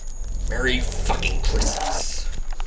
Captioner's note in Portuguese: Crinkling